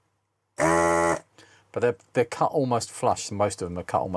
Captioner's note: buzzing